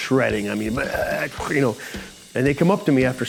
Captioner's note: imitates drumming